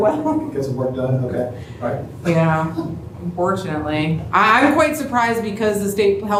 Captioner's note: cough